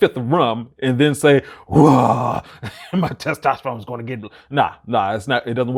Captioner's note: grunts